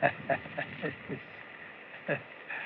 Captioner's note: chuckles